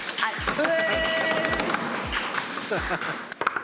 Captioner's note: making noise and applauding; laughs